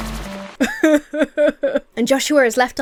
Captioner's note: Emma sobs